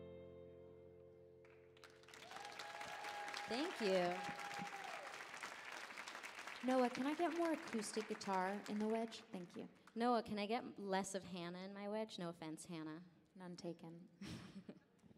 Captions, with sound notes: (audience applauding) - Thank you. - Noah, can I get more acoustic guitar on the wedge. Thank you. - Noah, can I get less of Hana in my wedge, no offense Hana. - None taken.